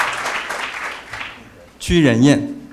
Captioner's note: applause